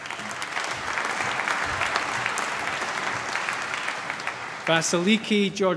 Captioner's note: applause